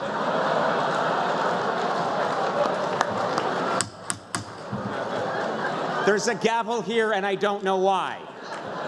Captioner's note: laughter